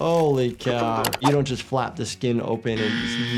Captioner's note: mouse clicks; buzzer buzzes